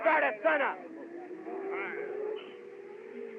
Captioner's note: chattering